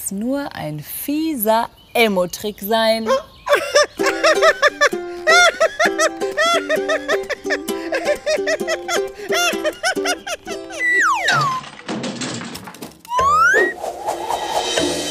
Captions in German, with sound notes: kann es nur ein fieser Elmo-Trick sein. (lacht) Ah, haha. (lacht) Hahahaha.